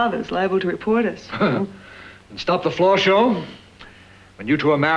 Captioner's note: laughs